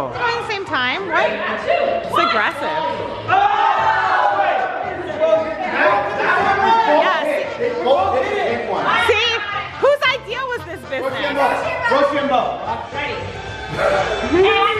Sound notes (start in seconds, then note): 3.7 group yells; 12.4 yelling